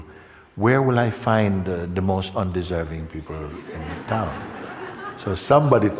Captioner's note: Lachen